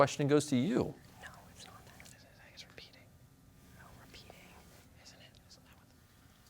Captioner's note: team whispering